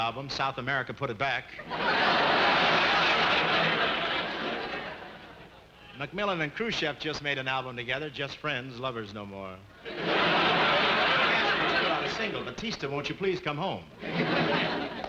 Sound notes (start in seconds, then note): 1.6 audience laughing; 9.8 audience laughing